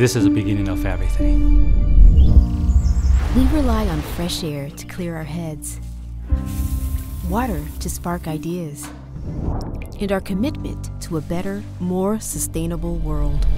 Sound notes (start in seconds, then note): 1.8 birds chirping; 6.3 shower running